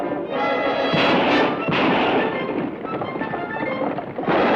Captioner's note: gun fires